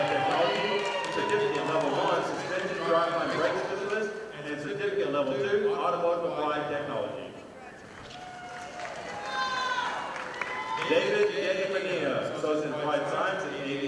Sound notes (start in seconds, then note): 10.2 audience applauding